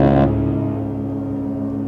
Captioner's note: humming